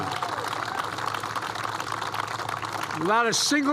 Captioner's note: applause